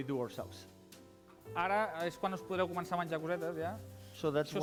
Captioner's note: non-english speech